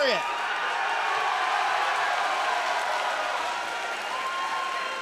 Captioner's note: crowd cheering